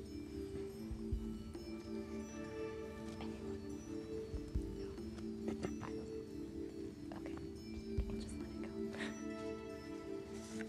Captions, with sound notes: (whispering) Anyone...no? (whispering) Okay. Just let it go.